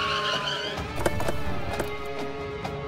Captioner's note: Car halting; Car door opens